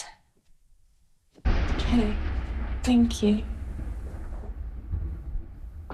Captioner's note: lightning strike